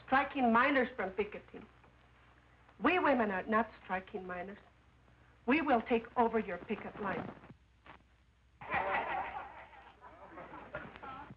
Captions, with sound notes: striking miners from picketing. We women are not striking miners. We will take over here your picket line. [laughter]